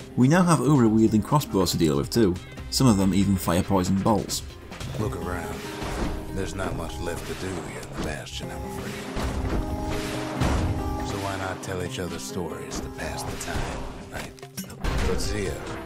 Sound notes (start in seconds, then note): 4.8 in-game audio